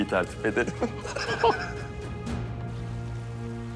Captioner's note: laughter